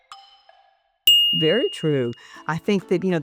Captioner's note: bell dings